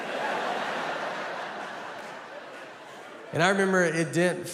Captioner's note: audience laughing